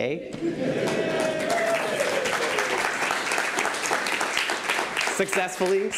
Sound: cheers and applause

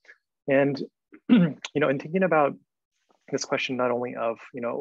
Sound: clears throat

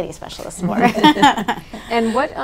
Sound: all laughing

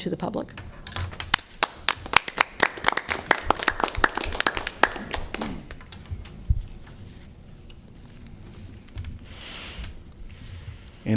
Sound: applause

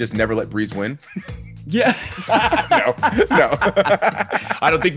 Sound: laugh

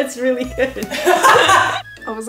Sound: laughter

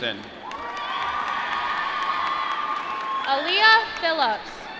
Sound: applause

